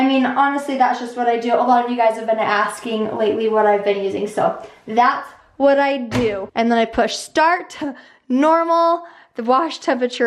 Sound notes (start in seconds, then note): none